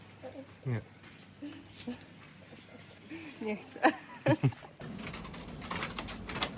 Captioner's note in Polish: śmiech